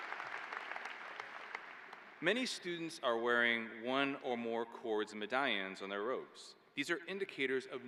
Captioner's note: applause